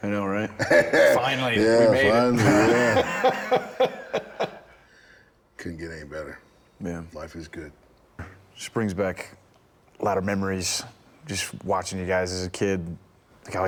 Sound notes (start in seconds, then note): 1.5 Rick laughing; 1.6 Bron laughing